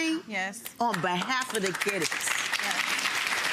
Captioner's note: audience clapping